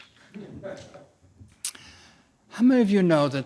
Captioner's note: audience laughs